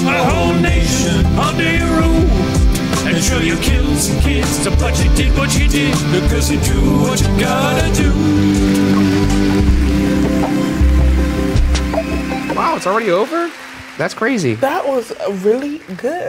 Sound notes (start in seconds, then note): 8.6 audience applauds